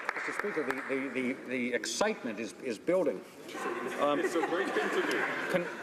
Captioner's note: some applause